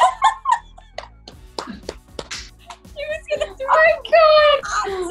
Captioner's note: laughing